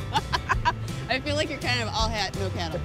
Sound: laughs

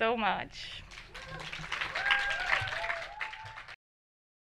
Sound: audience applauding

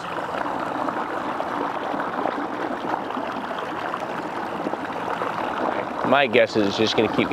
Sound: boat engine purring; water bubbling and splashing

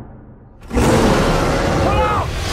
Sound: Kong Roars

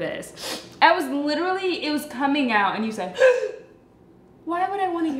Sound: gasps

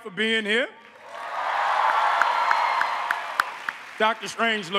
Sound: cheers and applause

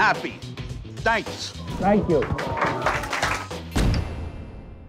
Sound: applause

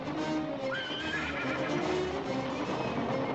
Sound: suspenseful music; horse whinnies; suspenseful music

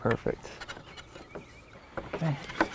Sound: rattling of balusters into upper rail holes

